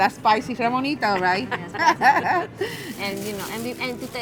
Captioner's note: ladies laugh